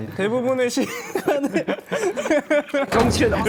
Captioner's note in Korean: 푸흡